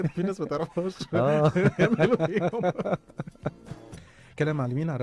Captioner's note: laughter